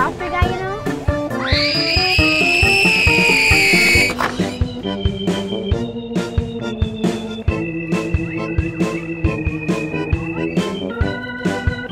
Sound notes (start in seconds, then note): 1.4 screaming; 4.6 circus-like music